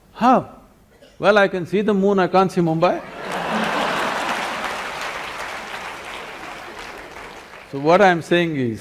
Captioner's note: laughter and Applause